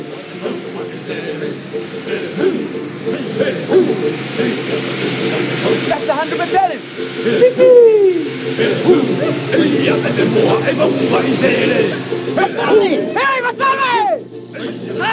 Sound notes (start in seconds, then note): 0.3 ukelele playing, chanting indistinctly; 5.3 cheers